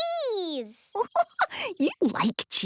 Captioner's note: giggling